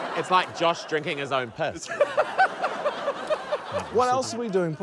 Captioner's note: laughter